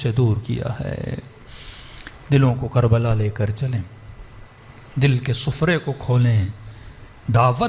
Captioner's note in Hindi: नाक से की जाने वाली आवाज़